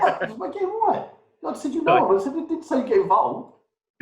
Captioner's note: murmurs